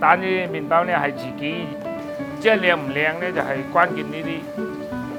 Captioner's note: speaking Cantonese